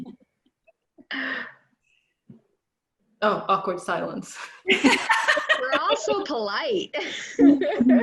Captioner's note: laughter